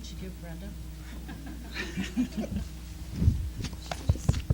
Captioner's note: laughing